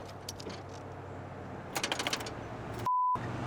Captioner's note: vehicle approaches